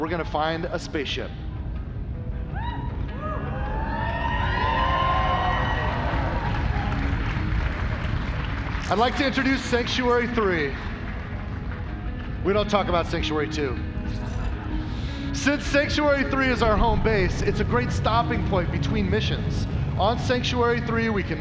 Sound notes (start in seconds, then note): 6.2 cheers and applause